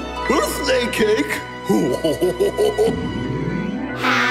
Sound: laughing

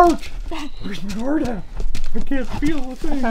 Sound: rustling

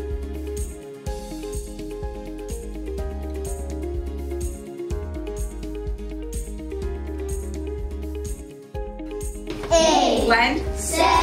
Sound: students sounding out words

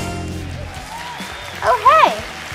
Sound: audience cheering

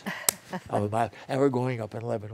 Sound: laughter

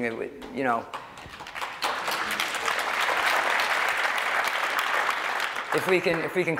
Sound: applause

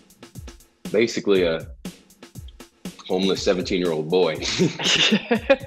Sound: Rudy laughs; chuckles

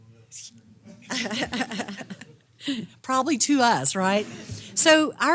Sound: laugh

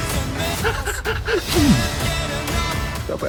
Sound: chuckles

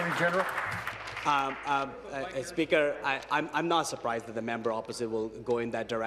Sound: applause

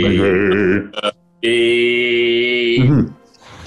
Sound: deep voice

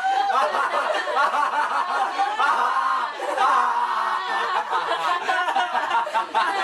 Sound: laughter; manical laughter

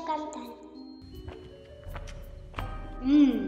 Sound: steps

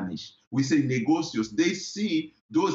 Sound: foreign language

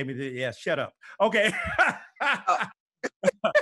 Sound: laughs

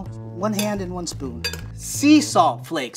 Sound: spoon clinks

